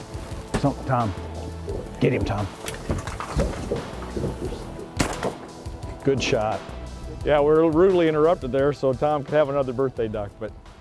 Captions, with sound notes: TOM, GET HIM TOM. (GUN SHOT) >>GOOD SHOT. WE WERE RUDELY INTERRUPTED THERE SO TOM COULD HAVE ANOTHER BIRTHDAY DUCK.